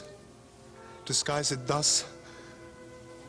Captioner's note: Sottovoce